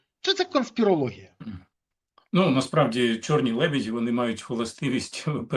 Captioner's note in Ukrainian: прочищення горла